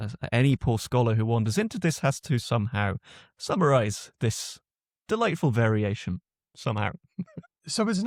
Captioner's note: chuckles